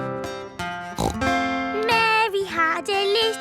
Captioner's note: playing guitar; snorts